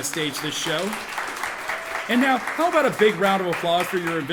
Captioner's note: audience applauding